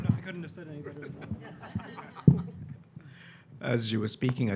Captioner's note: audience laughing